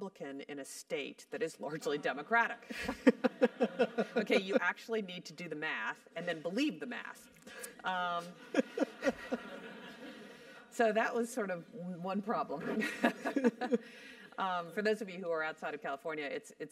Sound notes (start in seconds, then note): 2.4 laugh